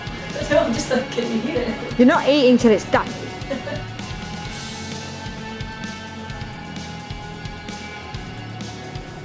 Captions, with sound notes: No! I'm just like, can you hear it? You're not eating 'til it's done! *Laughs*